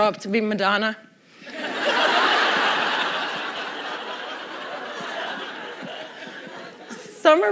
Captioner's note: laughter